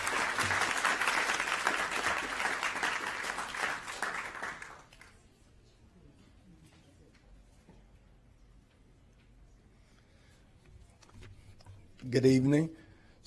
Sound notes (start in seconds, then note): 2.9 applause